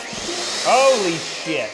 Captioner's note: blender whirs